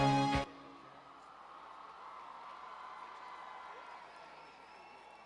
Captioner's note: cheers